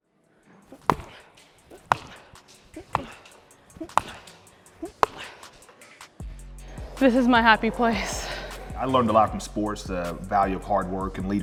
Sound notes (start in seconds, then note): 1.7 balls hitting, grunts